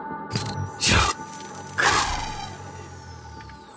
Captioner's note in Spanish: voz robótica